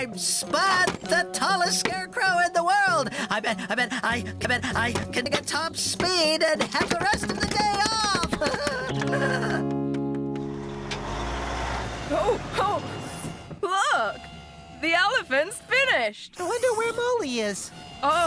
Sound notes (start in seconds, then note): 7.9 laughing